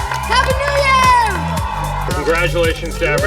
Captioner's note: crowd screams